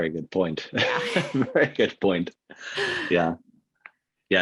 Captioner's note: laughing